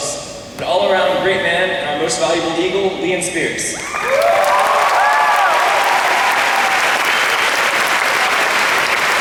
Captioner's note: applause